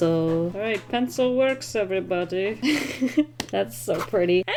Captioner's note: giggles